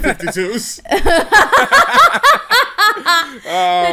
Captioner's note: laughter